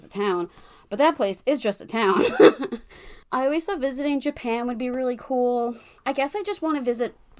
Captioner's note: laughs